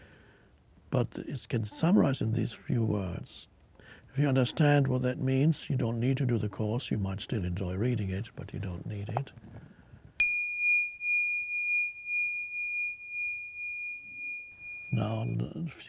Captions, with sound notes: but it can summarize in these few words. If you understand what that means, you don't need to do the course. You might still enjoy reading it, but you don't need it. (bell chimes) Now,